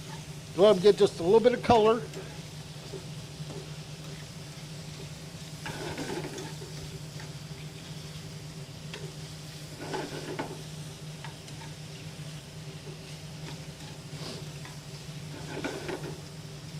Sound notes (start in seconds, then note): 2.6 shrimp sizzling in pan